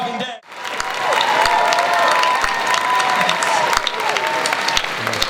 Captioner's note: cheering and applause